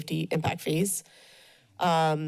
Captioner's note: breaths steadily